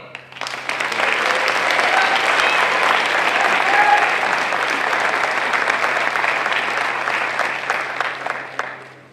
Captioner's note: applause